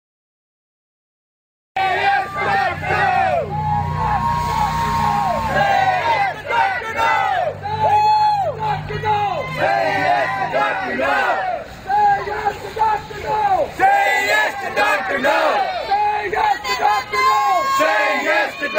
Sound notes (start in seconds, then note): 2.0 chants of “ron paul!”, “ron paul!”, “ron paul!”